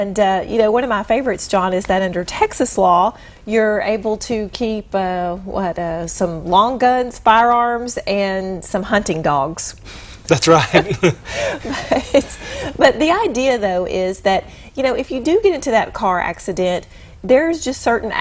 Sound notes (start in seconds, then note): 10.7 chuckle